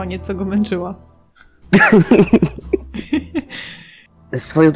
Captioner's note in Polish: śmiech